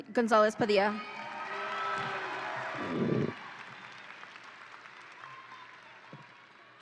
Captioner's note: audience applauds and cheers